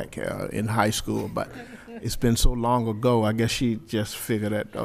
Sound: laughter

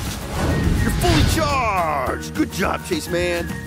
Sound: exploding

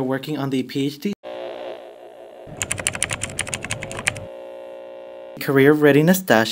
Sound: electronic Distortion and Keyboard Typing Sounds

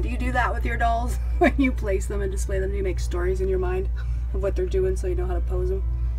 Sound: laughs

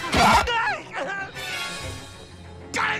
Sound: both grunting

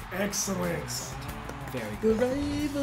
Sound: applause

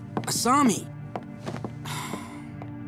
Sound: sighing

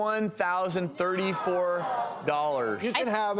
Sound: audience groans

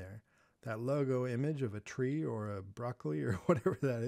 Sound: laughing

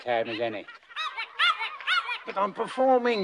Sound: in squeaky voice

